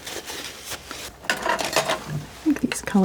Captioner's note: scratching